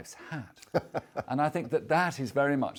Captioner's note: laughs